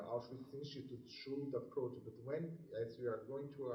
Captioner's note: murmurs